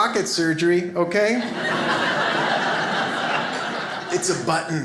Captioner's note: audience laughs